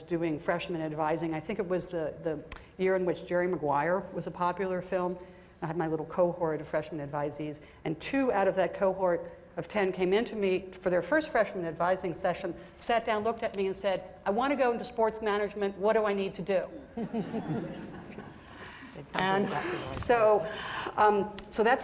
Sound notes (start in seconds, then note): 16.9 laughter